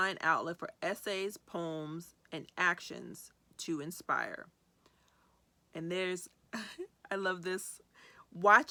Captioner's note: chuckles